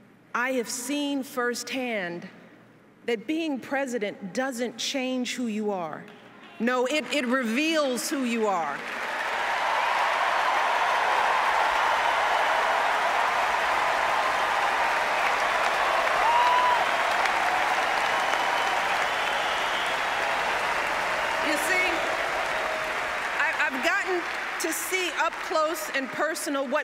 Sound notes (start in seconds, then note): 14.0 applause